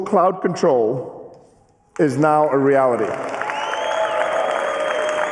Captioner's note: applause